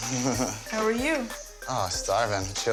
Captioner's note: laughs